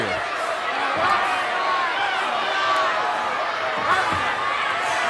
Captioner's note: audience cheering